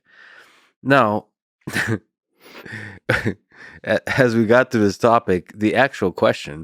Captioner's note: laughs